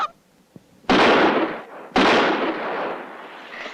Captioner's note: gunshots